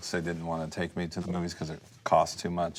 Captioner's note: none